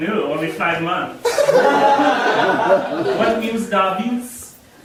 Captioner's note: audience laughing